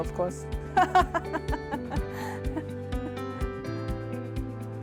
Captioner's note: laughter